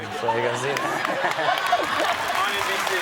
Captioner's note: audience laughs